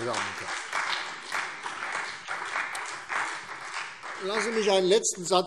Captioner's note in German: Beifall CDU und BÜNDNIS 90/DIE GRÜNEN